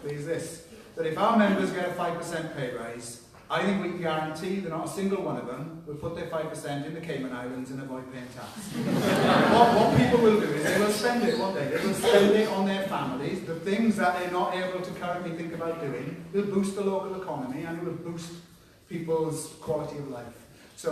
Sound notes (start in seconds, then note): 8.6 laughter